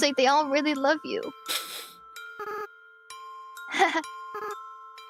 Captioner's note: sniffles